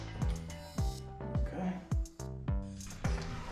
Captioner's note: confused